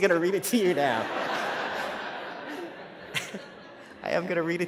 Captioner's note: laughter